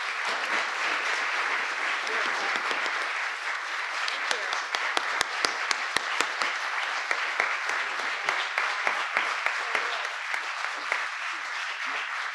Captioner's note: applause